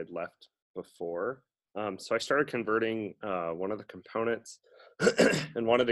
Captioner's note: coughs